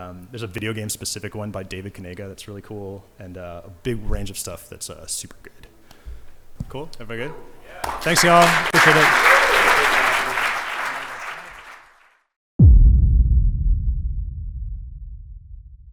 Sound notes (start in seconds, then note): 9.4 applause and cheering; 12.6 audio logo